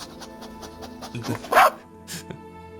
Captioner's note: robot dog bark